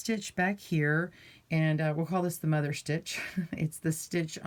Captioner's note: chuckling